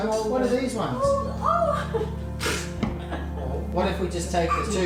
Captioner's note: chuckles